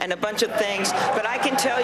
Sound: cheering and applause

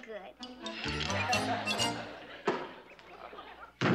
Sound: audience laughing

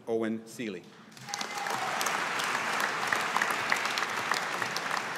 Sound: audience applauding

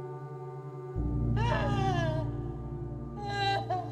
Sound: heavy sobs

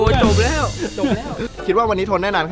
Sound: laughs

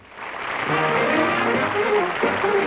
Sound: applause; upbeat music

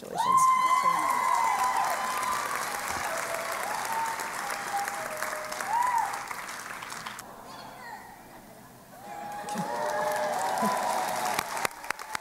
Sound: applause

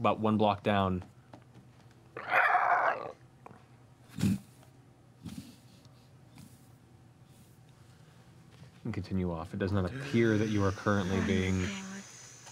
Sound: screeching, flapping

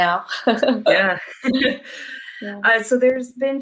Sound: both laughing

